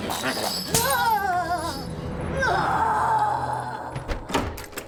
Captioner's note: zombie miss gudi yelling